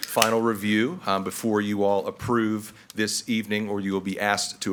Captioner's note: none